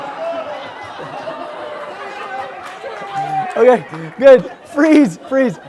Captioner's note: laugh